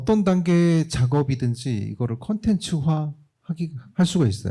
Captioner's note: speaking korean